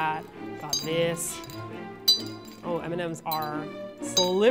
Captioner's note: clinging sound from cup